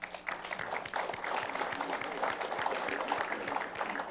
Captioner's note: applause